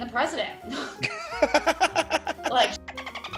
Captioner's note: laugh